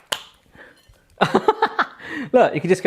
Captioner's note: laughing